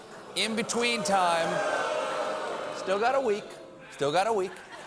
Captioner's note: audience reacts